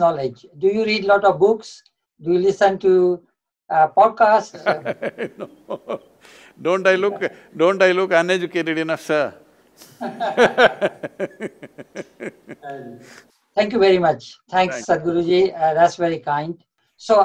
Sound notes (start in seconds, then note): 4.5 laughs; 8.5 both laugh